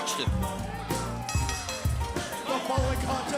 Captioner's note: bell ringing